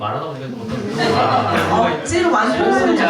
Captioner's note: laughter